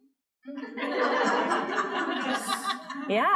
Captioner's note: laughter